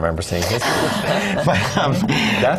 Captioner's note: laugh